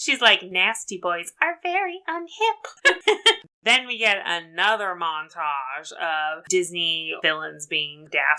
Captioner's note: laughs